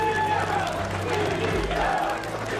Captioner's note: crowd chanting